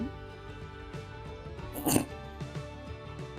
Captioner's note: chortle